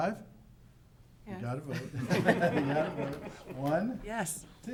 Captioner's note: everyone laughing